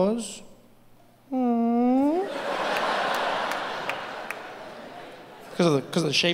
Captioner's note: humming; audience laughing